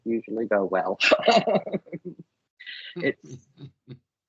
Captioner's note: laughing